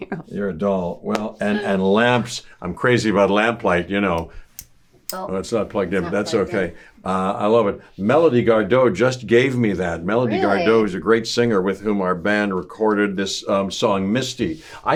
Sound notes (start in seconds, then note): 0.0 laughs; 4.6 switch clicking